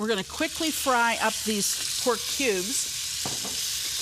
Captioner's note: pan sizzling